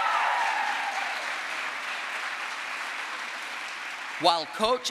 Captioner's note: crowd applause